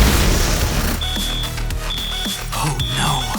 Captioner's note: alarm beeping